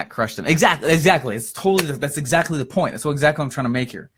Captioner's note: claps